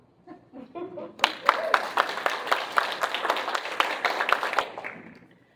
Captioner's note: applause